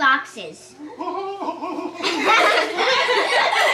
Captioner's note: grandpa cooing; children laughing